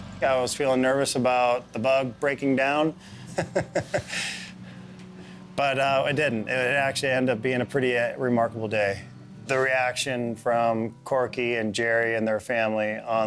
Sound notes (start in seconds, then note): 3.0 chuckling